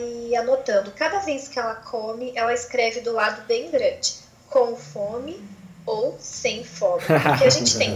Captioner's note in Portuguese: risos